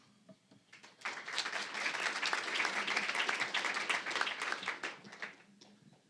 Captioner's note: applause